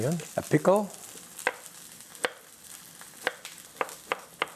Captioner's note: knife chopping